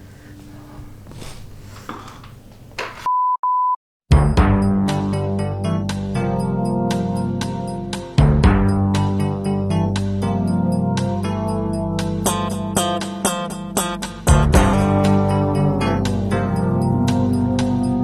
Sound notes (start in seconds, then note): 2.9 beep beep; 4.6 funky mystery music